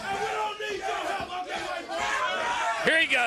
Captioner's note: crowd chatter